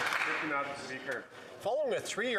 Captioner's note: some Applause